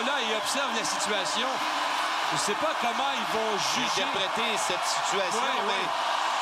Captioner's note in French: cris de la foule